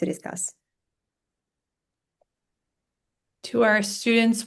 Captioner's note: silence